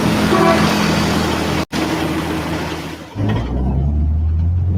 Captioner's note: engine truck revving